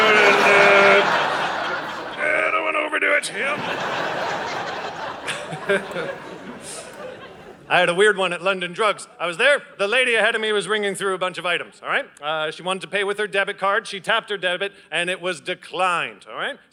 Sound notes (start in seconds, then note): 0.0 audience laughing